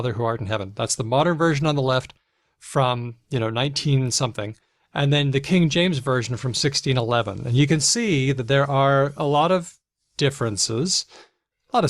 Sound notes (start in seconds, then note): none